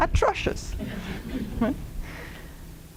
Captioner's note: laughter